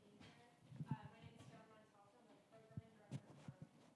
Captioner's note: speaking faintly